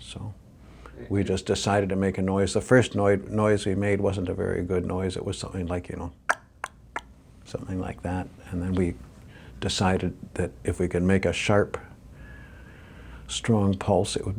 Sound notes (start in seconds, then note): 6.3 clicks tongue